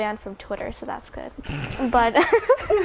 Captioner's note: snort